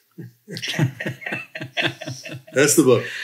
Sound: both laugh

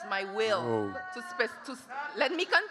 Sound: audience clamoring

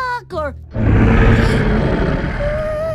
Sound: roaring

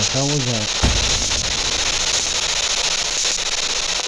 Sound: static

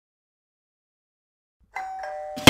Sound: door Bell

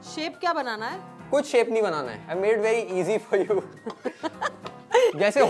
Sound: laughs

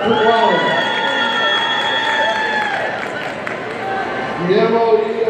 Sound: audience cheering

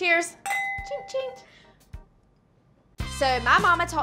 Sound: glasses clink; imitates clinking

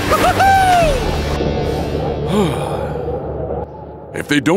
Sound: cheering

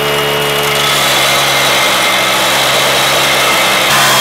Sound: metal screaming

